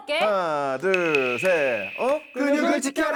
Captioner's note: nervous sound effect